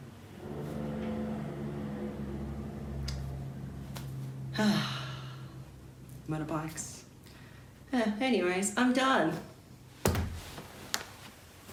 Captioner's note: motorbike zooms